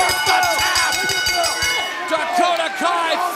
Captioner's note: bell ringing